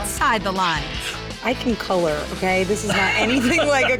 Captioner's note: laughing